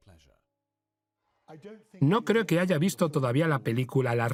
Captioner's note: voiceover